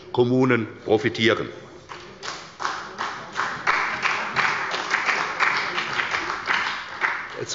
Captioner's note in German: Beifall bei der CDU und dem BÜNDNIS 90/DIE GRÜNEN